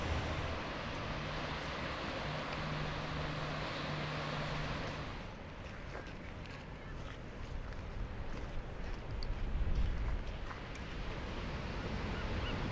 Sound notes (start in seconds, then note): 0.0 ocean waves crashing; 5.1 footsteps crunching on gravel path Ocean sounds in distance; 11.8 waves crashing on rocks Seabirds squawking